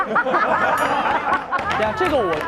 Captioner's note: hahaha